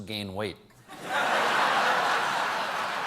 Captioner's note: cheers and applause